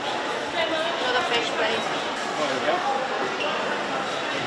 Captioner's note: background chatter